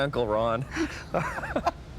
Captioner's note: laughing